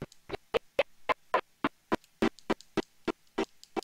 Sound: stuttering

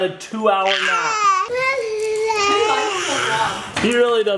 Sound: screaming

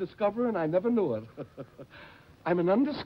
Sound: chuckles

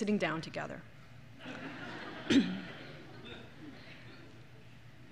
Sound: laughter

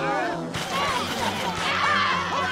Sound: screaming

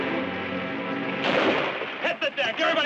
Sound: gunshot bangs

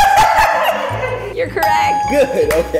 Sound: bell dings

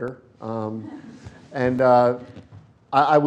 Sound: laughter

